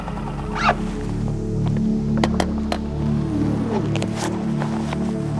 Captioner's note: boat engine humming